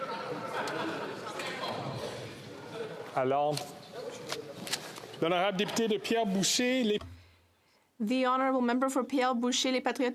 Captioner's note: speaking French